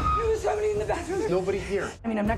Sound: scream

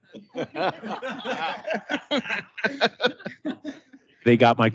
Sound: council members laugh

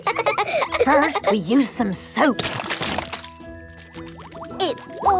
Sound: laughing; squirt! squirt!

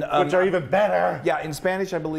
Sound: none

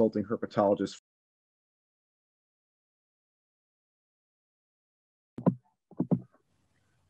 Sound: silence as he accidentally mutes

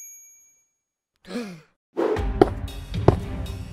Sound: gasps

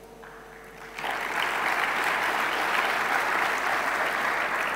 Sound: audience clapping hands

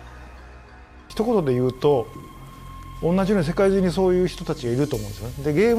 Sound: speaks in a foreign language

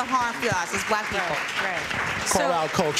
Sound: applause

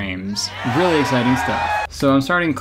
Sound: audience cheering

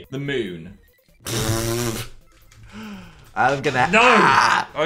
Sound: Dan laughs

